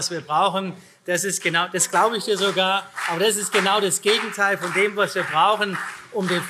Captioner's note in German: Beifall CDU und vereinzelt SPD